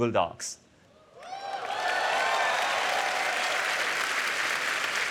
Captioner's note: applause